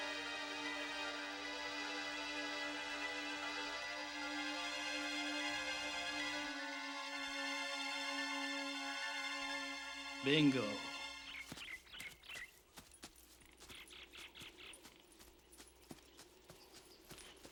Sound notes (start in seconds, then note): 11.9 birds chirping